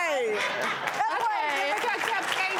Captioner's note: audience laughs and claps